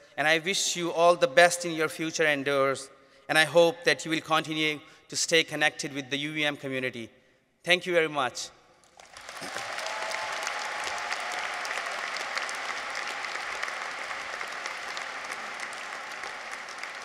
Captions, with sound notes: And I wish you all the best in your future endeavors, and I hope that you will continue to stay connected with the UVM community. Thank you very much. -(audience applauds) -(people cheer)